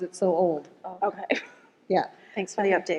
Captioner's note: laughs